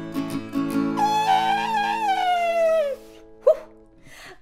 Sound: imitating elephant trumpeting

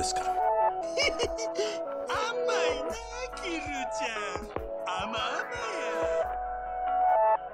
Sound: giggles

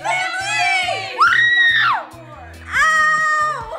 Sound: screaming

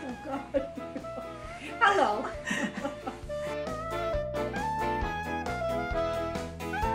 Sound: laughing

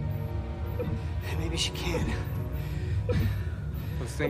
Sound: blipping continues

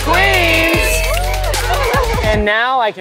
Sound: whooping; laughing

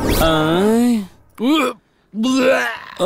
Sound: retching

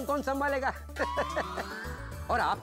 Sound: laughing

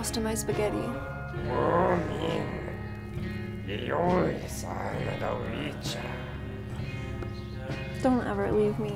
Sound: alien Language Sounds

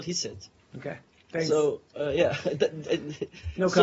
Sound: laughter

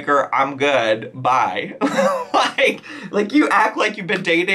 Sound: laughs

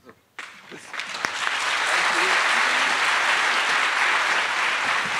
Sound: attendees applauding

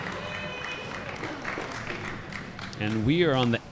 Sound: audience applauding

